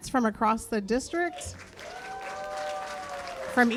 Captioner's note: cheers and applause